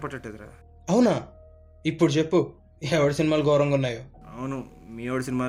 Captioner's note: mocking him back